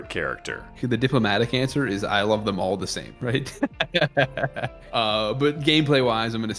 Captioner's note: chuckles